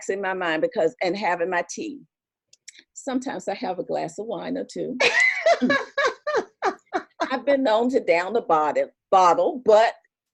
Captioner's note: laughter